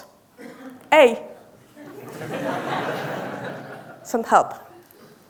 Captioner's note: audience laughing